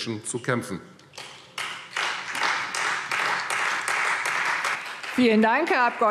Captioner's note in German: Beifall Freie Demokraten